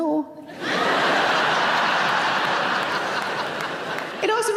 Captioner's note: audience laughing